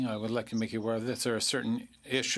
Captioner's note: speaking French